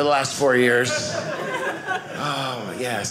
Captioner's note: audience laughing